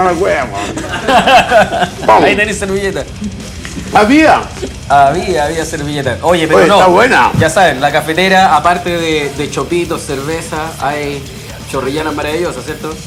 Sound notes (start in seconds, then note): 0.4 laughs